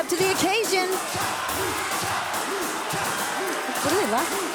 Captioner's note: crowd cheering